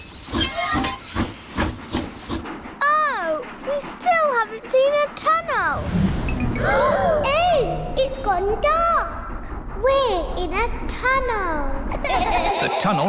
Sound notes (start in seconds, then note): 0.0 train chugs; 6.6 all gasp; 12.0 all laugh